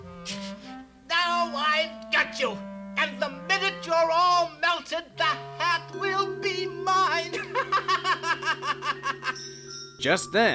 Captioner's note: laughs